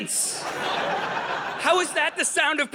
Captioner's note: audience laughing